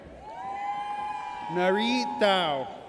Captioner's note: audience cheers